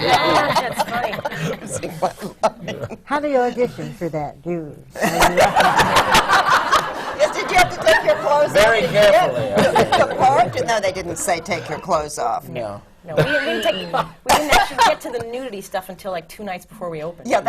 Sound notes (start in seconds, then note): 0.0 laughter from the panel; 2.8 laughs; 6.9 laughter